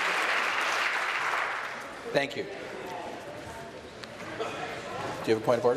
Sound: sustained applause

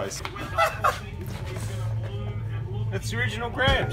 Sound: laughs

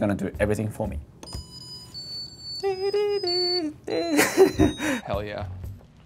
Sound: rice cooker plays

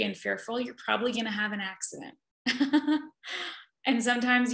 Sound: laughs

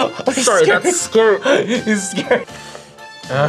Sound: laughs

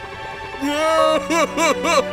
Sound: crying

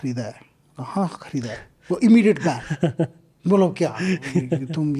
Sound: speaks in Hindi

